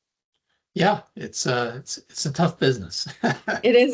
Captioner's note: laughing